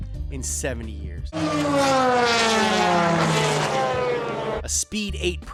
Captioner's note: engine revving